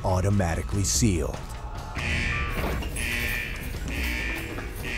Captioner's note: alarm blaring